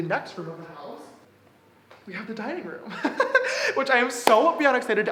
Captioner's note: laughs